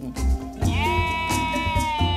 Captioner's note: bleating